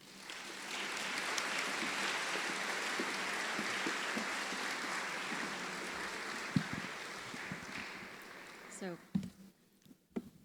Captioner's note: applause